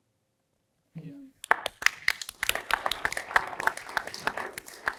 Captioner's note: applause